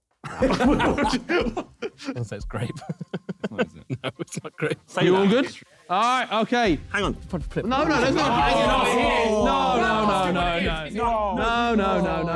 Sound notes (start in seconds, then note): 0.2 men laughing; 7.0 men chattering